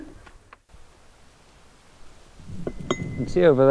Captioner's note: wind rustling